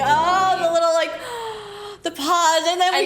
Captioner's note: gasssssp